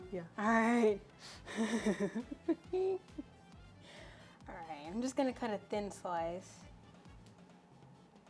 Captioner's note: laughs